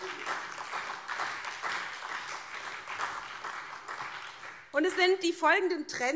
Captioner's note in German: Beifall SPD